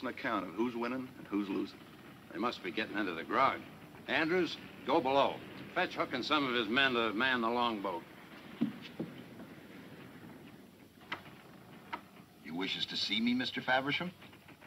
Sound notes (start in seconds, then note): none